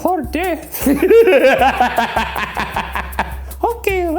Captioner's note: laughs